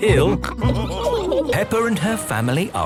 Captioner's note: all laughing